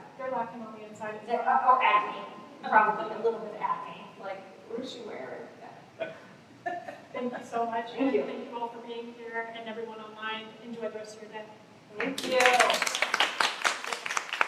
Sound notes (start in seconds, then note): 6.6 laughter; 12.0 applause